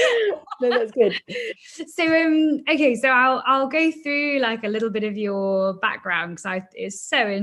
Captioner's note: laughs